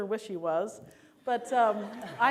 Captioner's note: laughter